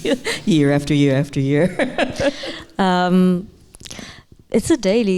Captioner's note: chuckling; laughing